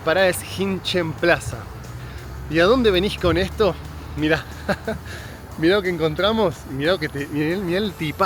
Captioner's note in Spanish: risas